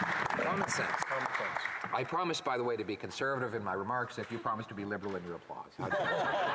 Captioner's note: some applause